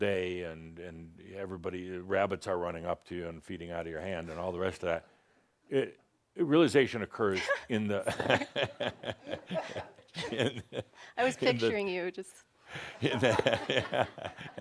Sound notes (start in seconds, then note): 7.3 they chuckles; 8.1 she chuckles; 12.8 Adamus chuckles